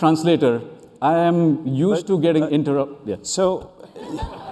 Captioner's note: laughter